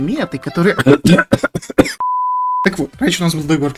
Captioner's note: cough-cough